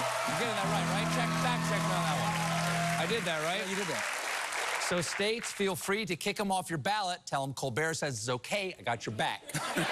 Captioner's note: cheering